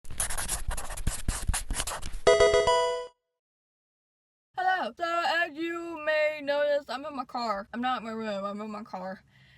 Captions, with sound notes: (marker scratching) (electronic video game chime) Hello, so as you may notice, I'm in my car. I'm not in my room. I'm in my car,